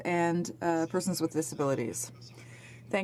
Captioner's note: speaking French